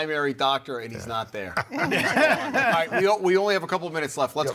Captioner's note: all laugh